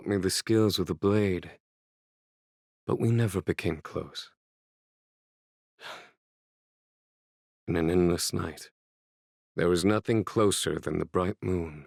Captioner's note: sigh